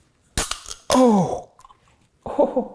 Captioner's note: beer can pops